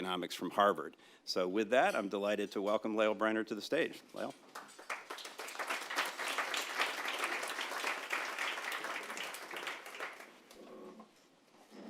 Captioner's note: applause